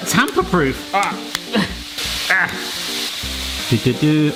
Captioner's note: tape snapping